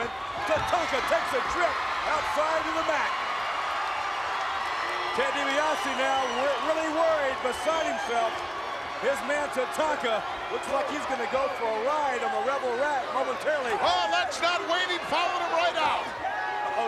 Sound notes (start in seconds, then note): 3.4 crowd cheering